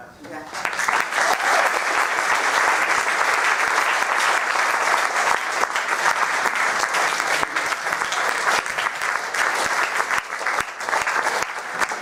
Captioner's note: applause